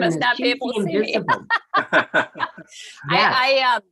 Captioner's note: laughing